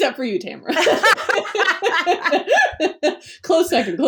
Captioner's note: laughs